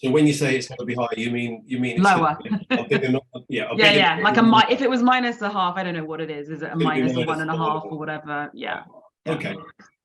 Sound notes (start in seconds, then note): 2.6 laughs